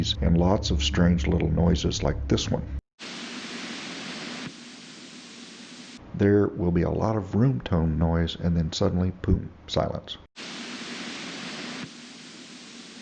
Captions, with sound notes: and lots of strange little noises like this one [ Air is rushing then...silence ] There will be a lot of room tone noise and then boom, silence [ Air is rushing then...silence ]